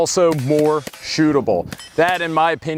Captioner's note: MP5 rounds hitting metal